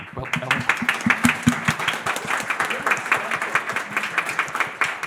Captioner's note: audience applauds